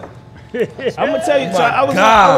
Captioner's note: laughing